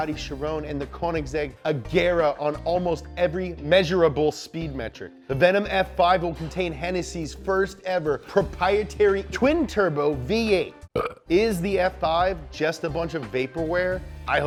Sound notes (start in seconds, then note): 10.9 burps